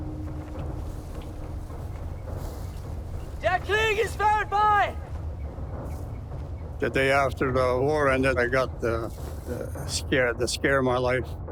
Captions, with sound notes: (speaking foreign language) - The day after the war ended, I got the scare of my life.